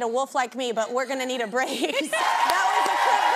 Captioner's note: laughs